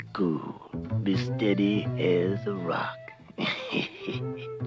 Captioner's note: laughs